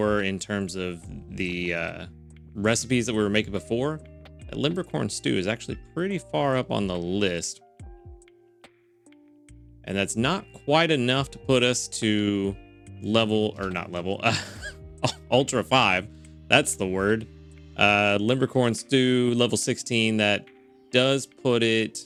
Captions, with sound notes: in terms of the recipes that we were making before. Limbercorn stew is actually pretty far up on the list. And that's not quite enough to put us to level, or not level, (laughs) ultra five, that's the word. Limbercorn stew level 16 that does put it